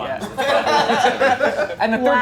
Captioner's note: movers laughing